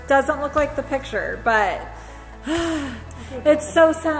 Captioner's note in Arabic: يزفر بصوت عال